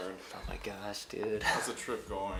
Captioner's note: chuckles